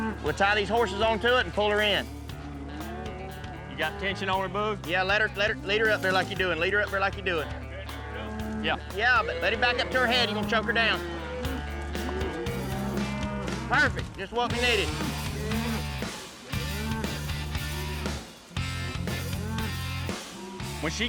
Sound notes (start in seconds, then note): 11.4 mooing